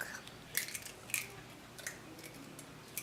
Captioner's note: egg cracking